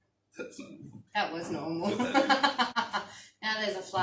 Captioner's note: laughter